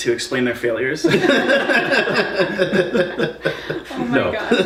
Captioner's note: all laughing